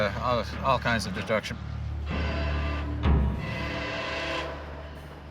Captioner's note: horn blaring